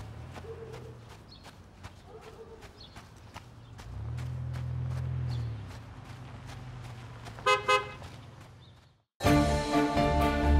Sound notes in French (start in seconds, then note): 7.4 klaxon; 9.2 indicatif musical